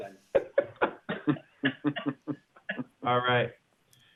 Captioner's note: laughter